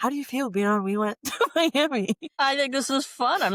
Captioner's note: laughter